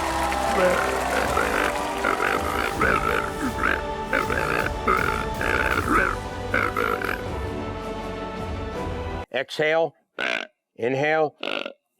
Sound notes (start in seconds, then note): 0.9 hog calling; 9.9 snorts